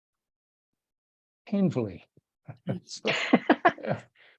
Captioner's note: chuckles